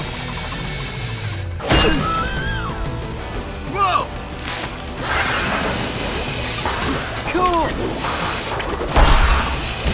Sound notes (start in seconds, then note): 1.4 crashing; 8.6 crashing